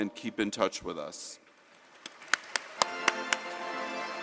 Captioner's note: applause